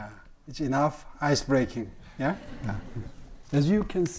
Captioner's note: audience laughing